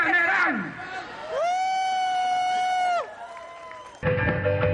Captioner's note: applause